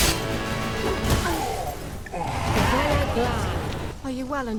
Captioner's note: groan, gasp